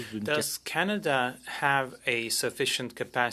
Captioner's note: speaking French